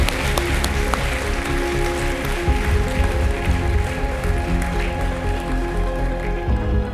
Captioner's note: applause